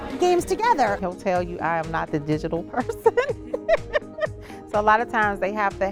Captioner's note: laughs